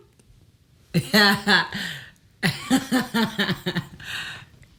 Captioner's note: Kellita laughs